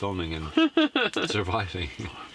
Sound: laughing

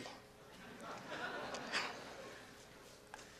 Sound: laughter

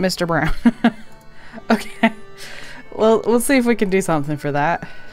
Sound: laughs

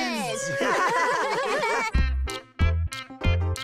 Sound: all laugh together

